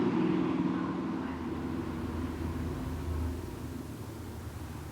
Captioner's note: car engines roaring